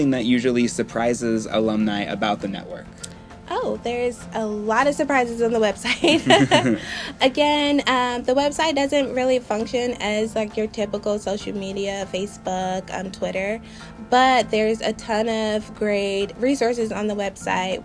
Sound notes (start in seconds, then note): 5.8 both laughing